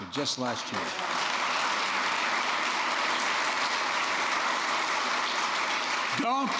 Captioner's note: applause